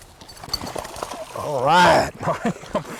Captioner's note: big splashing